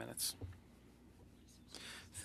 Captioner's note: speaking French